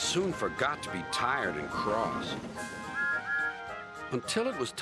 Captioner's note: engines toot